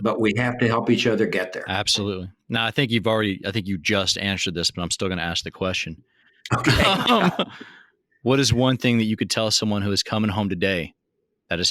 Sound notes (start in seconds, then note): 6.5 laughter